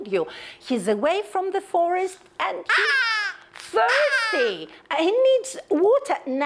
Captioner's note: crow puppet yells